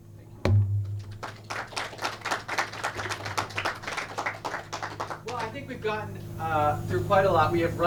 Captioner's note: clapping